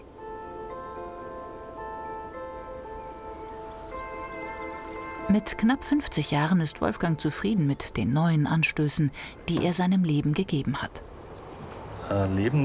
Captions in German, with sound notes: (Langsame Musik) (Grillenzirpen) Mit knapp 50 Jahren ist Wolfgang zufrieden mit den neuen Anstößen, die er seinem Leben gegeben hat.